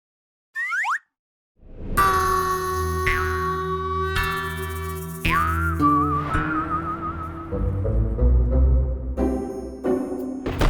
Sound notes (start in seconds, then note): 0.6 whistle; 1.9 cheerful music; 7.4 upbeat music